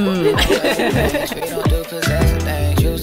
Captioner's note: laughter